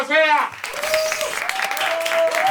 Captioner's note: cheers and applause